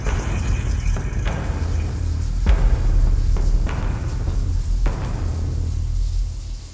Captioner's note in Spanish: música intensa; agua corriendo